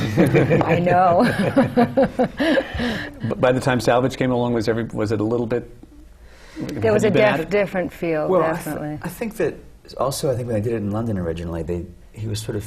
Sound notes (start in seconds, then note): 1.8 laughter